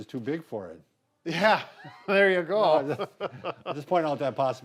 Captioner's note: laughs